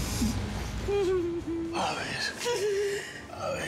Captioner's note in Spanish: sollozos